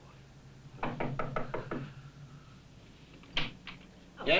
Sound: knock on door

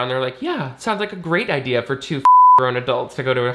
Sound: beep

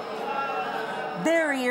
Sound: audience booing

